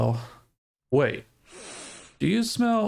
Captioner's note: sniffs